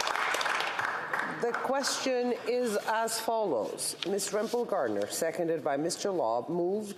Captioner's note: applause